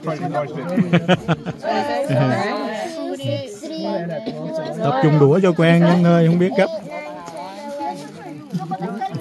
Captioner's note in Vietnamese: Tiếng cười